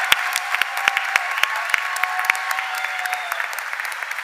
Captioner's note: cheers and applause